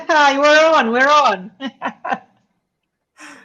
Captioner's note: laughs